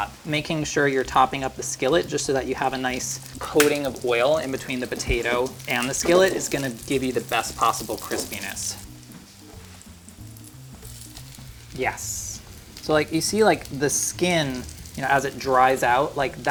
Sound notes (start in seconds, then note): 9.1 potato sizzling softly